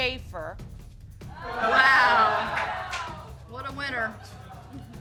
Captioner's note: audience exclaiming